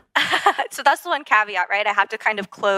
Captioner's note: laugh